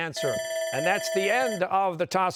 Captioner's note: bell ringing